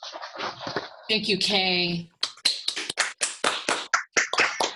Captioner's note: applause